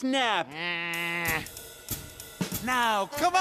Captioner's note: squawking